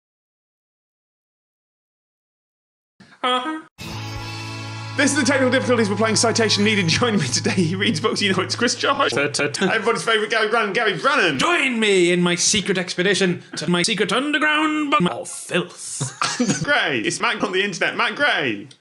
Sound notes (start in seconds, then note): 3.1 doing a goose honk sound effect; 16.0 laughing